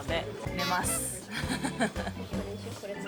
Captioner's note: laugh